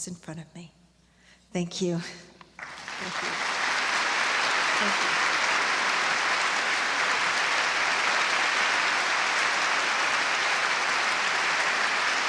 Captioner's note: applause